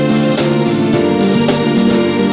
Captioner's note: cough